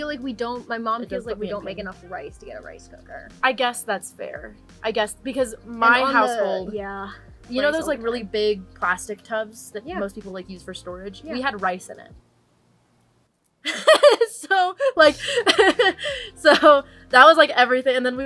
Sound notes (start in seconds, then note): 13.6 laughs